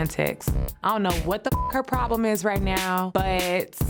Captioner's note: beep